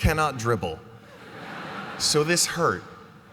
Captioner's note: laughter